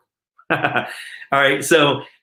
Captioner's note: laughs